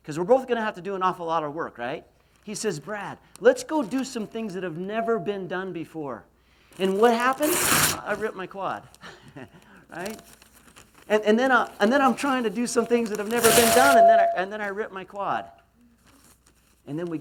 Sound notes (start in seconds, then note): 6.8 ripping